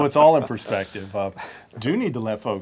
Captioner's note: all chuckle